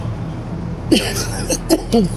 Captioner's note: coughing